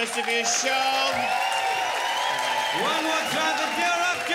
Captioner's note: crowd applauds and cheers